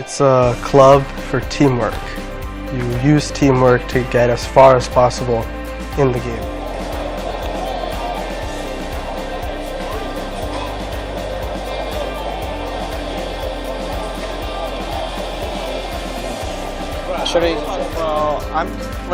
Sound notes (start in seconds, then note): 7.8 crowd noise